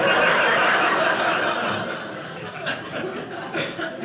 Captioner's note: audience laughing